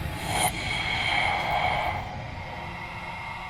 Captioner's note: Julie gasps